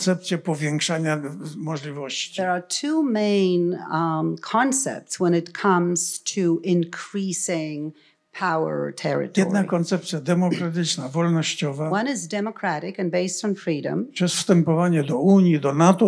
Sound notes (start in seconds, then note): 9.0 foreign language; 14.4 foreign language